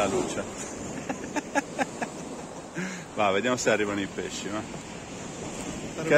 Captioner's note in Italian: Risate